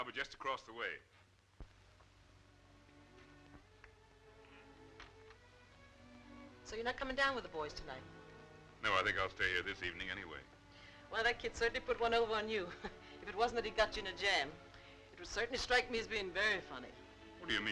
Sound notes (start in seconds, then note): 12.7 chuckling